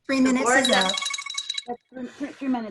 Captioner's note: alarm ringing